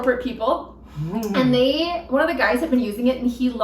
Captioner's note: laughs